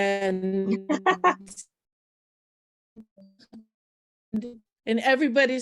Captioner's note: laughing